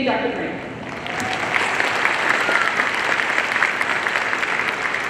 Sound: audience applauding

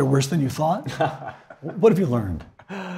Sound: laugh

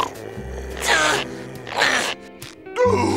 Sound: grunting

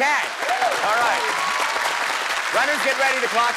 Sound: applause

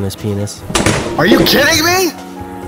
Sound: loud thud

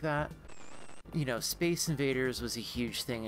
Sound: static

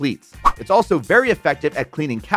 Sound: graphics swishing

